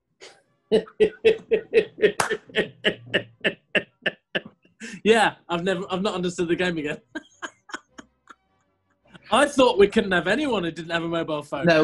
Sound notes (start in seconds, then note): 0.7 chuckling; 6.9 laughing